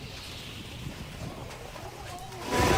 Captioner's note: nats: hail hitting roof of dugout